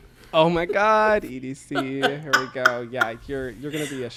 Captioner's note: laughs